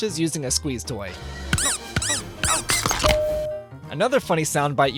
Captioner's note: squeeze toy noises